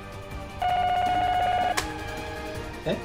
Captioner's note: phone ringing